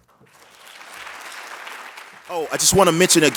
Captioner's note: applause